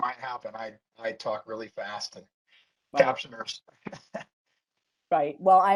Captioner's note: laughs